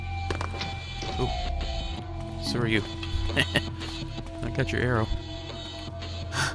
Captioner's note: laughs